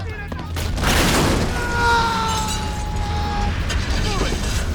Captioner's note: people scream; explosion booms; man screams